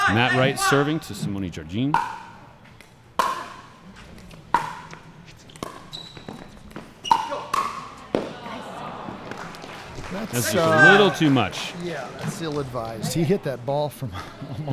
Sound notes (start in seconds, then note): 3.1 ball bouncing; 9.2 disappointed groans